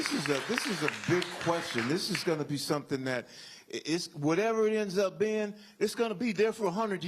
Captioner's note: applause